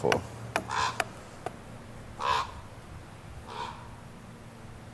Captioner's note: bird squawking